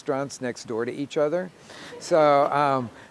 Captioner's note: audience laughing